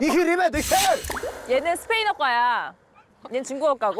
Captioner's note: sound effect: revealing true major